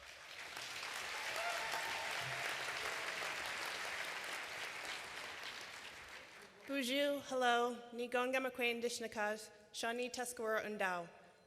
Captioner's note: applause